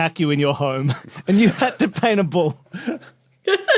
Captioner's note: cracks up profusely; giggles